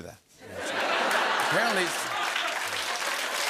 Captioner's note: laughter; cheers and applause